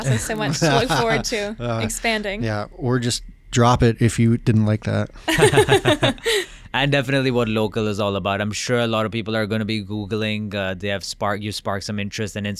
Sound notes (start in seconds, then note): 5.2 laughing